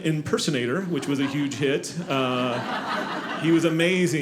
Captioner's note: audience laughing